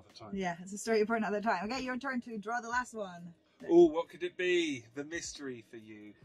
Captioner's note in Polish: sarkastycznie